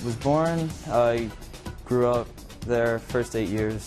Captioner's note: none